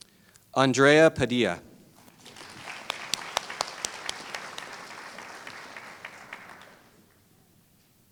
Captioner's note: applause